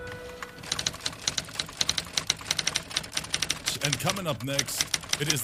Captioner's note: typewriter noises